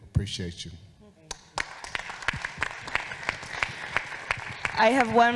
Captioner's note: audience applauding